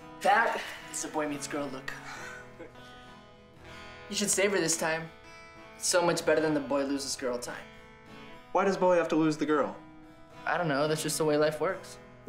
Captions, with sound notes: That is a "boy meets girl" look. (Noah chuckles) - You should savor this time, it's so much better than the "boy loses girl" time. - Why does boy have to lose girl? - I dunno. That's just the way life works.